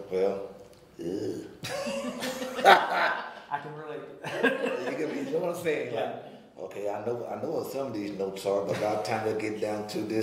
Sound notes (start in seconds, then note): 1.0 groaning; 1.6 laughing